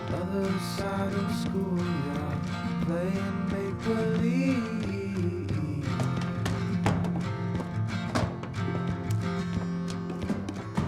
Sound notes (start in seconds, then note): 6.5 books thudding